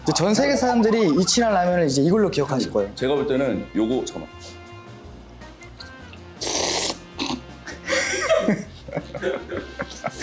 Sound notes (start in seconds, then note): 7.1 cough